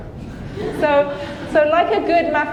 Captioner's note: audience laughing